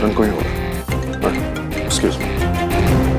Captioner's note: Phone ringing